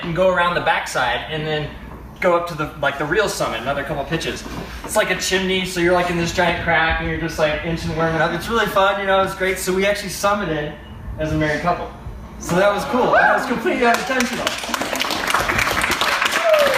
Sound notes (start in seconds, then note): 13.1 crowd awws and begins to cheer; 13.8 crowd claps